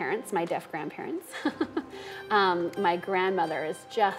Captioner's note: laughing